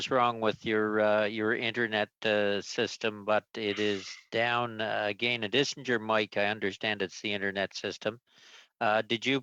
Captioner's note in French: voix de l'interprète